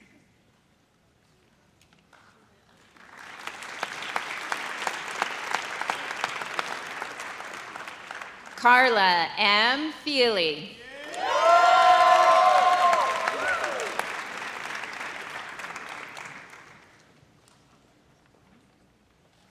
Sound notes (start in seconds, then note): 2.9 audience applauds; 10.9 audience cheers